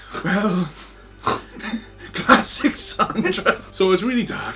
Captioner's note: laughing